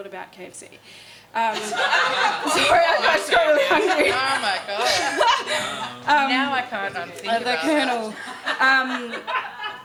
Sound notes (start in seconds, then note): 1.6 laughing